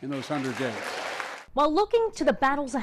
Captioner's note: audience applauding